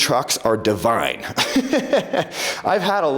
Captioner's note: laughs